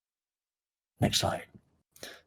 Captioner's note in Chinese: 小声